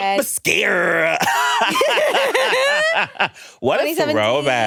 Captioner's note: everyone laughs